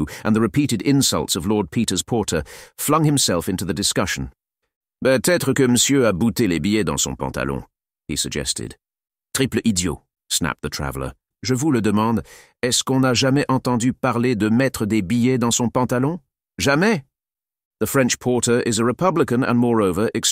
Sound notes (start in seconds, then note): 6.0 Frenchh; 10.2 French